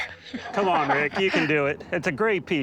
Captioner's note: laughs